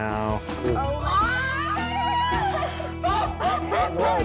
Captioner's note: girls shrieking